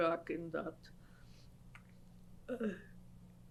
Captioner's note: pauses for 3 seconds